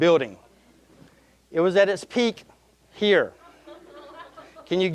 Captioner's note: audience chuckling